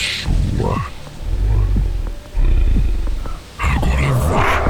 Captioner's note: growling